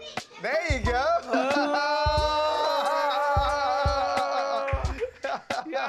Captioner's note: laughs